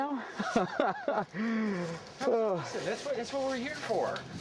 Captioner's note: chuckling